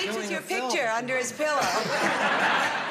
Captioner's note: laughter